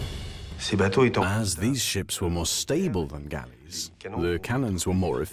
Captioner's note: voiceover